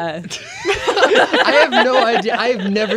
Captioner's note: laughing